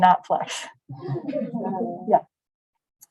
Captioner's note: laughter